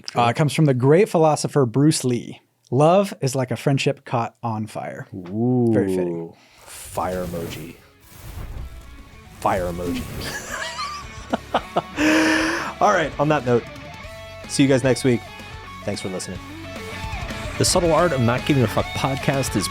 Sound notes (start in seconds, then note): 8.6 fire whooshing; 10.2 laughs